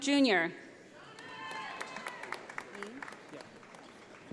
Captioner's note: audience applauding